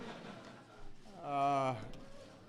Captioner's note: laughter